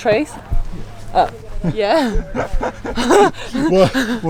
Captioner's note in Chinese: 哼哼哈哈嘻嘻倒抽笑